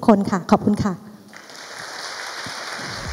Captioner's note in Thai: เสียงปรบมือ